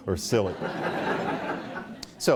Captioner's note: laughter